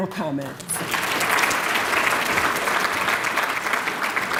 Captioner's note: applause